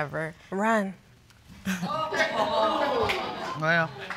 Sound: all laughing

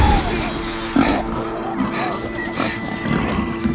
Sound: pig snorting

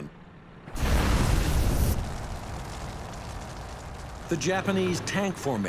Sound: fire crackling; flamethrower roaring

